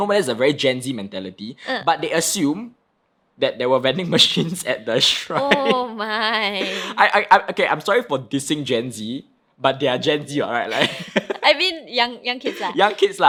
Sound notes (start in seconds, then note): 10.9 laughing